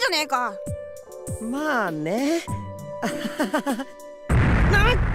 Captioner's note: awkward laugh